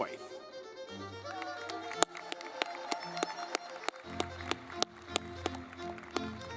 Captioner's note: lively music; audience clapping